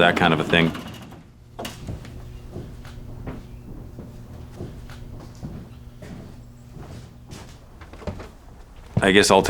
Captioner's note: sounds of footsteps